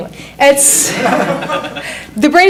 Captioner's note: audience laughs